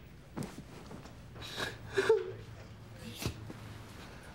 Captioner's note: sobs